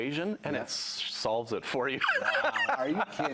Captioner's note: laughing